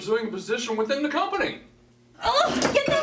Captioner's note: screaming; shreaking